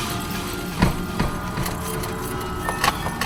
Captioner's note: Patrick panting; car door closes; suspenseful music